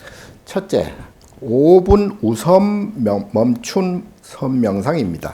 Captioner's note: speaking Korean